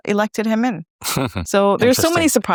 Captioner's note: chuckles